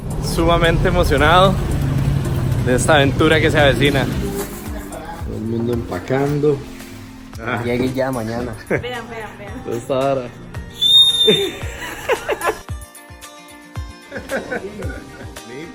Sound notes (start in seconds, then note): 10.7 blows whistle; 14.0 laughter